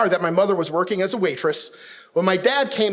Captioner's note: none